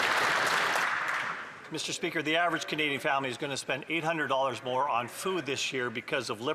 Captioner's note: some Applause